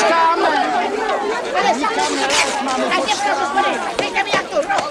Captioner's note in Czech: hluk rvačky